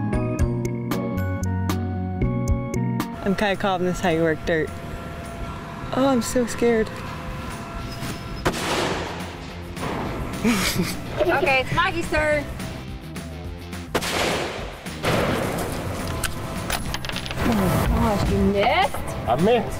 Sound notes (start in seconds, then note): 0.0 video game music; 8.4 gun shot; 13.9 gun shot